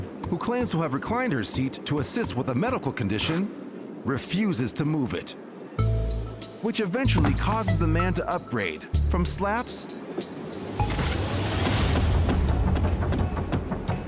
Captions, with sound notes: who claims to have reclined her seat to assist with a medical condition, refuses to move it. Which eventually causes the man to upgrade from slaps... [thudding]